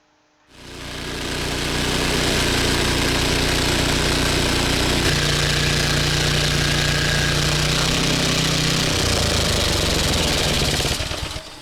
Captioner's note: sawmill running at high speed